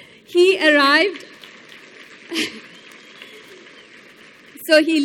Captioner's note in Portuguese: Aplausos